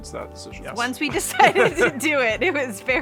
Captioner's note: laughing